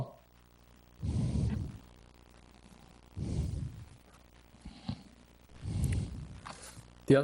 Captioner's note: breathes heavily into microphone